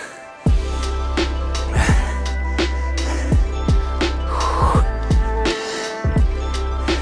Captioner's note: calm music; man panting